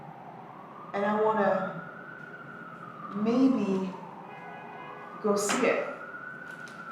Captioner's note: siren blaring